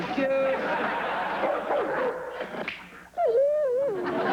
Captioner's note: barks; whines